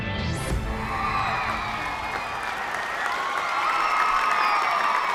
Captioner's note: cheering